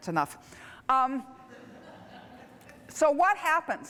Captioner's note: laughter